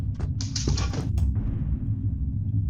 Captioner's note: skittering